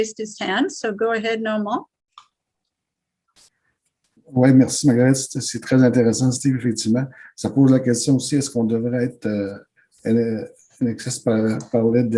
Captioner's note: French